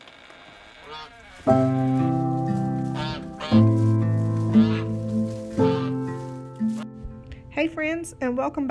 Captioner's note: door creaks; goose honks